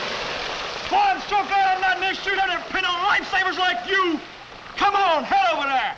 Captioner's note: splashing; shouting faintly